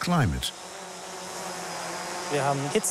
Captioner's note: drone buzzing